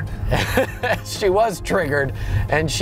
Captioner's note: driver laughs